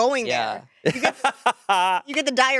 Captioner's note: laughing